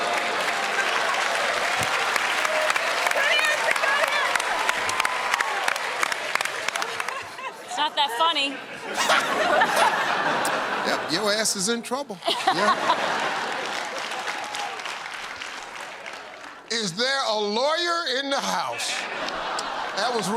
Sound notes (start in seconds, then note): 0.0 audience groans; 0.0 cheers and applause; 5.2 applause; 8.4 laughter; 12.8 applause